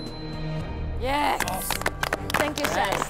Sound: applause

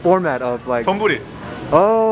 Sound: foreign language; speaks Japanese

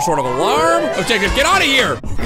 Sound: alarm screeching

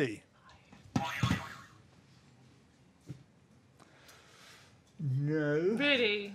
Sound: boing

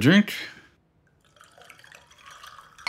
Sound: bar noise

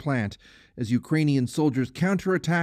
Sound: speaking Foreign Language

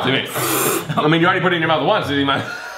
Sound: slurping

